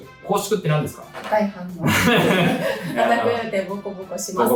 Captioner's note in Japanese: 笑い